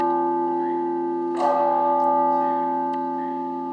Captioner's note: bell rings